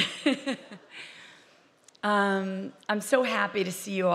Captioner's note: laughing